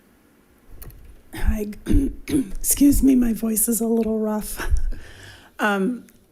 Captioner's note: clears throat